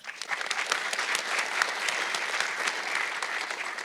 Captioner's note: audience clapping